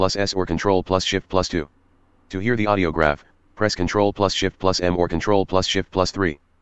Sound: screen Reader Speaking

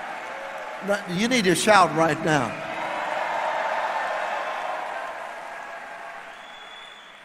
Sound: audience shouts

